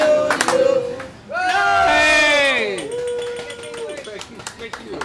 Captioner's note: cheering